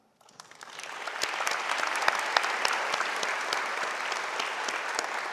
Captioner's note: audience applauding